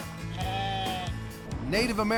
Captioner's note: sheep bleating